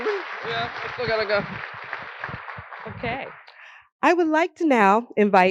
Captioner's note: applause